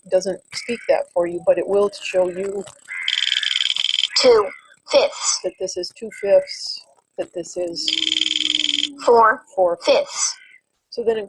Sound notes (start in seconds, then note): 2.8 wheel clicking; 4.2 voiceover; 9.2 voiceover